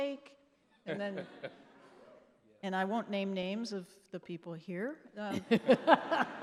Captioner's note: laughing; laughing